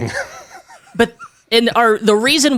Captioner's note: laughs